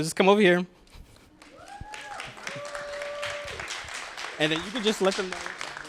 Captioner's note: applause, cheering